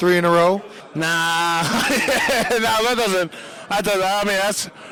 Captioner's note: laughing